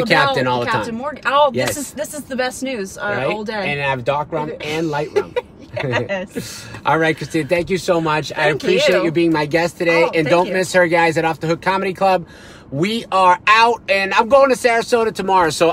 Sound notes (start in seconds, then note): 5.6 laughs